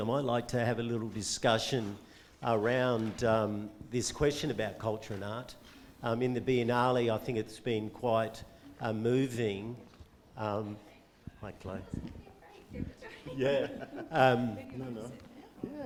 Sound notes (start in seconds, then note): 11.9 chattering